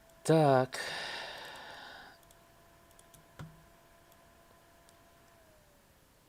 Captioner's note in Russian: вздыхает